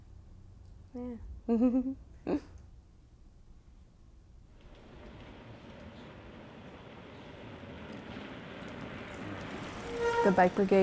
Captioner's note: laughter